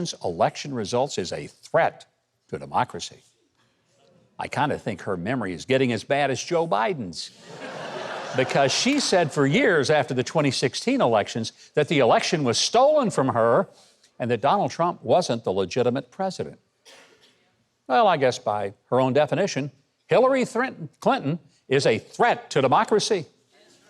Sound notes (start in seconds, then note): 7.4 audience laughs